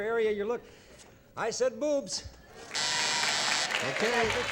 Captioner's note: buzzer